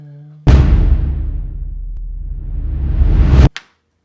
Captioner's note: dramatic booming